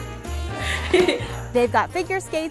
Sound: laughs

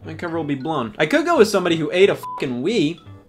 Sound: beep

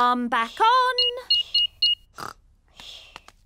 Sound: beeping

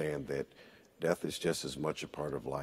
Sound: none

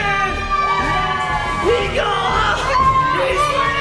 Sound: cheers

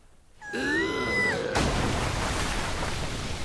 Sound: screams

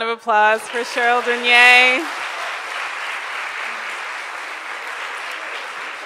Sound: crowd applauds

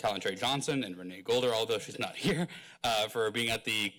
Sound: chuckles

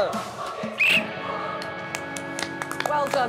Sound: whistle blows

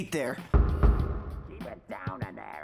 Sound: pounding on wall

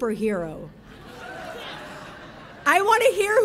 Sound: audience laughing

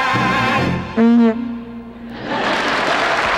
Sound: horn honking; audience laughing; audience applauding

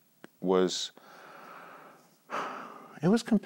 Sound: inhales and exhales

